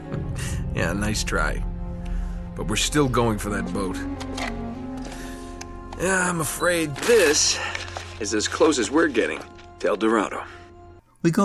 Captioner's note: in-game audio